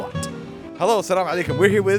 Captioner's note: speaks Arabic